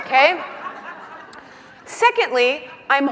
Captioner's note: laughing